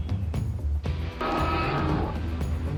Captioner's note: roaring